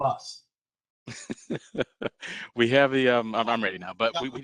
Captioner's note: laughter